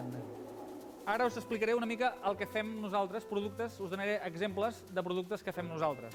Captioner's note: non-english speech